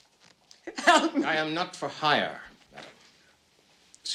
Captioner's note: sobbing